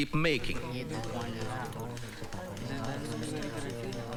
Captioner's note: deligates murmuring